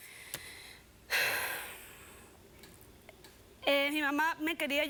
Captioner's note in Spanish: exhala